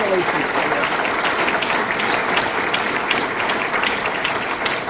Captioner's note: audience clapping